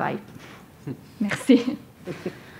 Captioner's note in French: rires